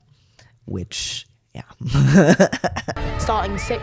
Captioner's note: laugh